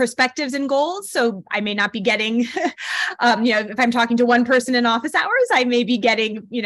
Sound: laughter

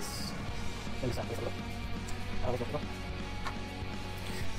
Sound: fast talking

